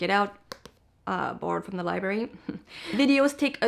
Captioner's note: taps book